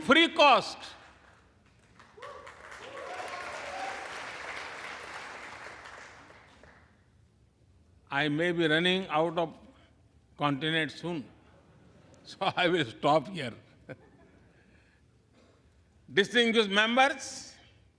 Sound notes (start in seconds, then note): 7.1 applause